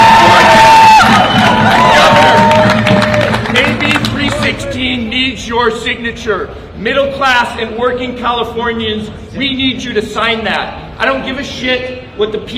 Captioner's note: applause